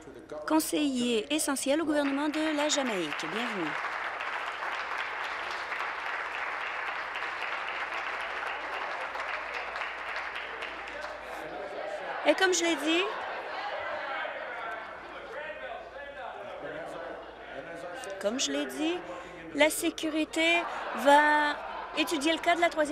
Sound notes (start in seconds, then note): 5.7 applause